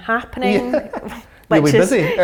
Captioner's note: laughing loudly